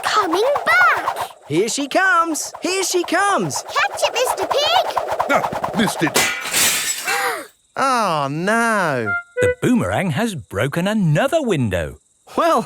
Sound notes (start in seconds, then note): 6.1 shatters